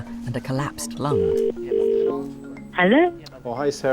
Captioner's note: phone ringing